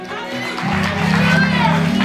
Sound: congregation applauds

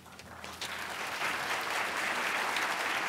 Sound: applause

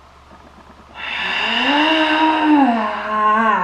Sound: snarls

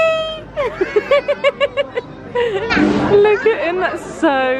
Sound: laughing

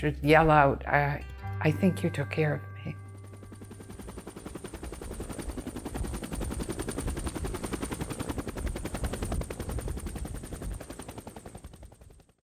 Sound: sounds of Helicopter

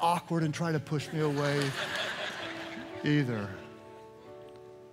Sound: audience laughs

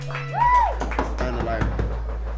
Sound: knocking on door

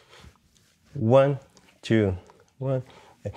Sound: vocalizes rhythm

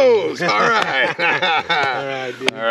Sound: laughing

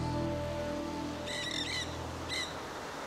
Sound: seagulls

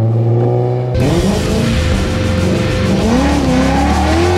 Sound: car engine revving; tires screeching; intense music

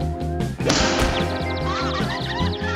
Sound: birds chirping

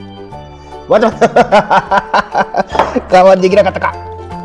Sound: laughs

